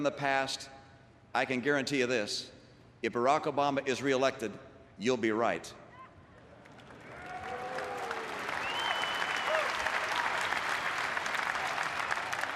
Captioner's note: applause